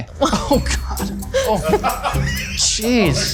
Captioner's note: crew laughs